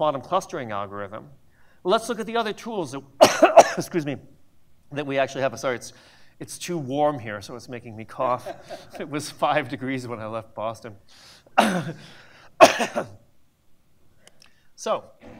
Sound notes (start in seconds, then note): 3.2 coughs; 12.6 coughs